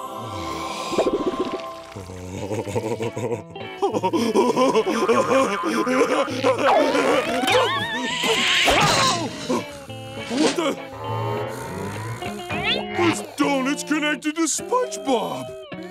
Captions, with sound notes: Wow. [laughing] Whoa! What the? [snoring] This doughnut's connected to SpongeBob.